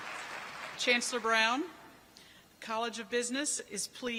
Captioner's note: applause